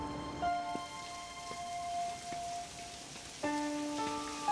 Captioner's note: water running